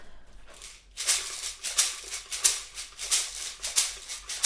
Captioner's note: shaking sounds